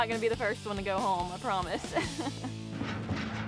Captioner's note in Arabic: يضحك